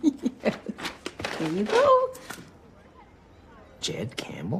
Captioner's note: laughs